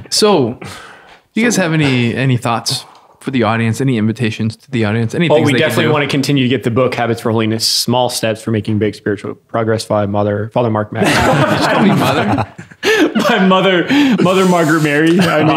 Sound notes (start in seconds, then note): 11.0 all laughing